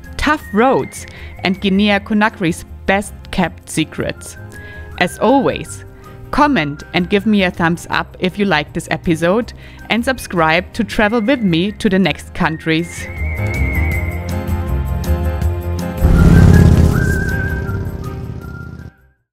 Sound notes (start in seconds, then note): 13.2 upbeat music; 16.0 motorcycle engine revving